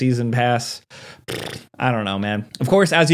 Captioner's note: blowing raspberry